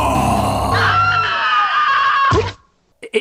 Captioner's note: aunt screaming again